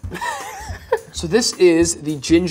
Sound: laughing

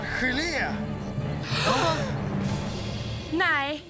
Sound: gasps

